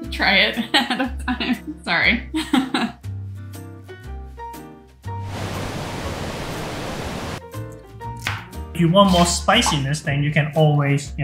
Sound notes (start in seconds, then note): 2.4 chuckles softly; 3.3 soft music; 5.2 heavy pouring